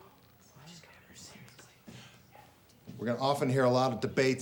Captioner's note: students whispering